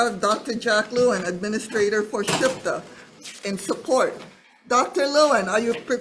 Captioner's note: speaks foreign language